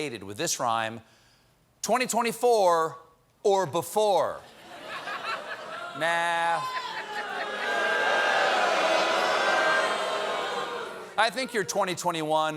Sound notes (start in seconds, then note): 4.8 booing; 12.3 cheers and applause